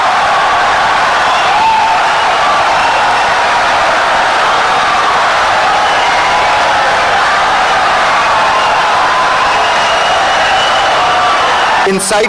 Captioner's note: wild applause and cheering for 17 seconds